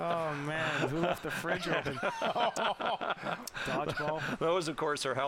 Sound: laughter

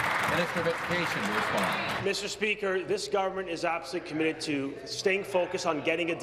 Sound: applause

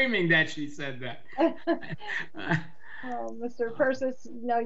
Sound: members laughing

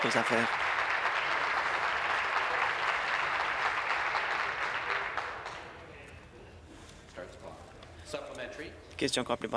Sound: applause

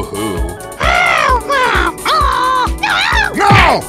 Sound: annoying Toad Noises

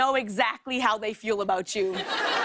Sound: laughter

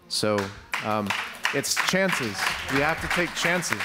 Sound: audience applauds

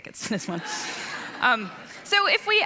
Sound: laughing

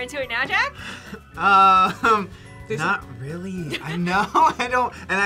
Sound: laughs

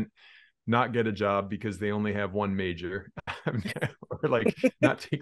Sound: chuckles

